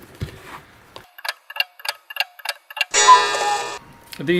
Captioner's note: tick, tock, tick, tock ...."cuckoo"